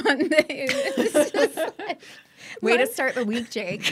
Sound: laughing

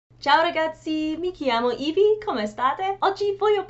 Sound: in Italian

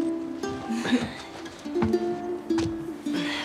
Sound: laughs

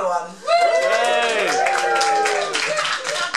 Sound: cheering

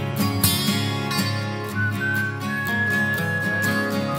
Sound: whistling

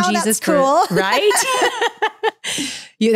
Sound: laughing

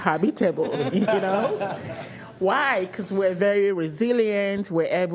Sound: laughter

